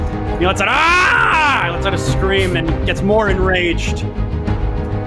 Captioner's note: screams